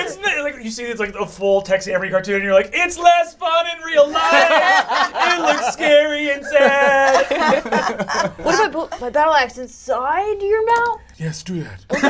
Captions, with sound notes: - Isn't it, like you see, it's like a full Tex Avery cartoon, and you're like, it's less fun in real life! And it's scary and sad. (all laugh) - What if I put my battle axe inside your mouth? - Yes, do that.